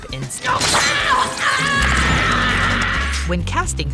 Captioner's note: Melissa screaming in pain